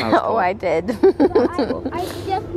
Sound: laughing

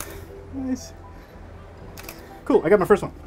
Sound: shutter clicks

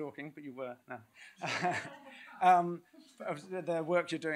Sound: laughter

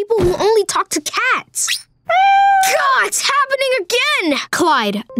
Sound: meowing

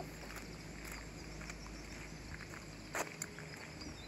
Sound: birds chirping

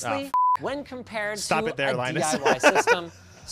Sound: laughter

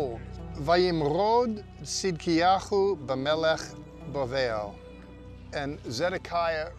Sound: speaking in Hebrew

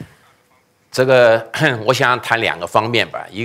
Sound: speaking chinese

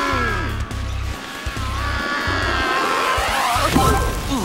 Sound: screaming

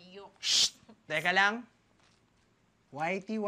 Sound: shushes

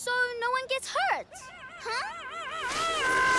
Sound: screaming

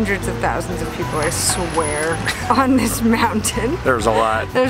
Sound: chuckles

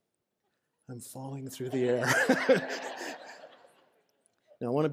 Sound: laughter

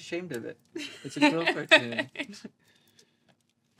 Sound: she laughs; he chuckles

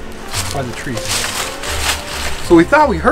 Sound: leaves rattling

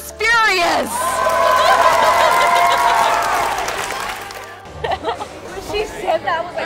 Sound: crowd cheers and applauds

